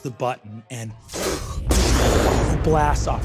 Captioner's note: vocalizes an explosion